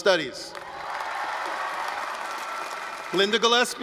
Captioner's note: applause, cheering